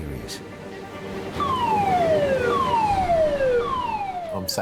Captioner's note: siren wailing